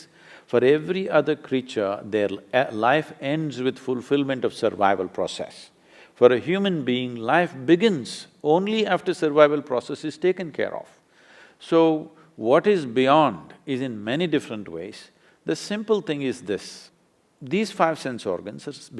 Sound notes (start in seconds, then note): none